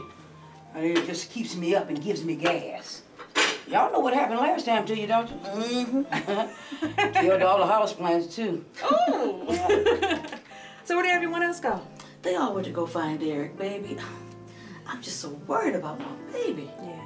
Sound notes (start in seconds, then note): 5.7 chuckling; 9.8 laughing